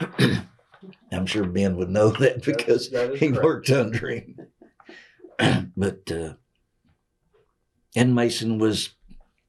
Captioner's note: laughs